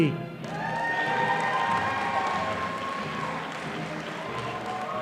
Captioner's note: audience applauding